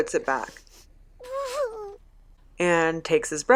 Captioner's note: fussing